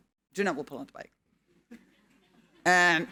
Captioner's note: audience laughing